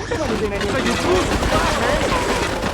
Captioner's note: sirens wailing